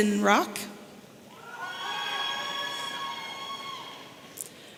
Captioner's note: audience cheering